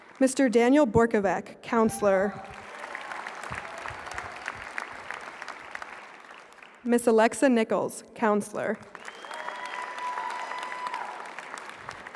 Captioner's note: applause